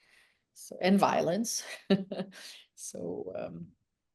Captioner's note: chuckles